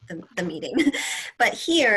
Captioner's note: laughter